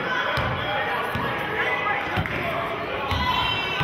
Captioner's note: yelling